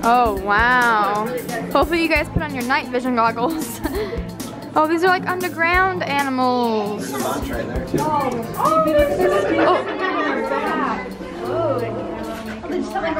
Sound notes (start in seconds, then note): 3.4 laughs; 8.7 woman's Voice; 10.6 chattering